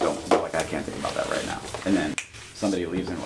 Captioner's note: snaps fingers